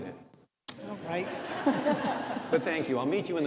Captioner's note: audience laughs